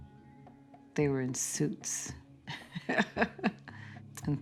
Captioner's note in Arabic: يضحك